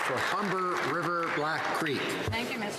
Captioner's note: some Applause